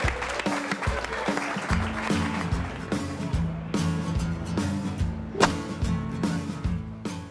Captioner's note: cheering